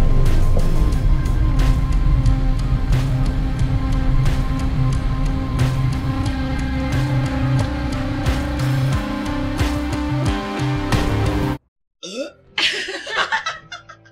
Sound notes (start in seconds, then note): 12.0 Kelly burps